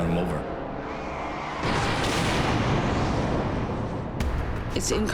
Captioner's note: crashing